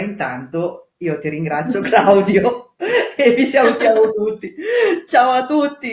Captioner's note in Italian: risate